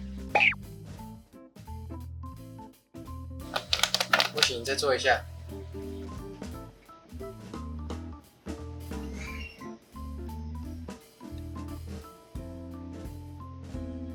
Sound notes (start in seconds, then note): 3.5 Scratch